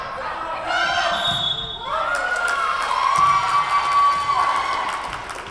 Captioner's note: whistle blowing